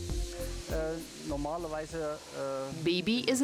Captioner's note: speaking foreign language